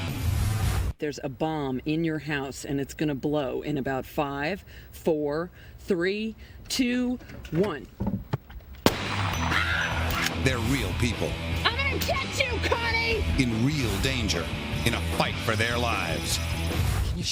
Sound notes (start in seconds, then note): 8.8 gunshot; 9.4 woman screams